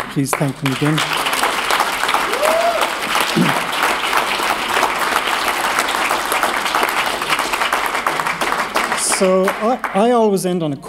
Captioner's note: applause